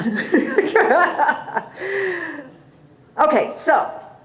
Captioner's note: laughs